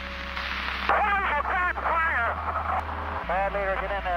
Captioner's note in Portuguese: RÁDIO: "Tem um incêndio sério aqui!"